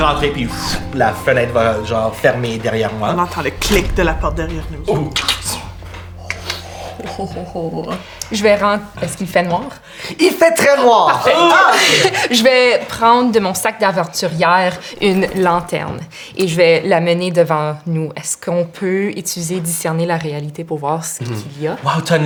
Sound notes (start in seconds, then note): 0.0 door closes; 5.5 sound of a lock